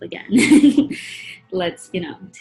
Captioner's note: chuckles